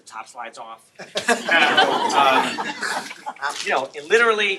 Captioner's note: laughter